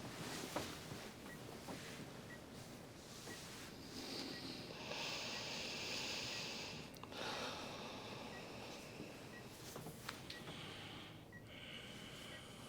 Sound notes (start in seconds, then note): 4.0 both sighing over beeping monitors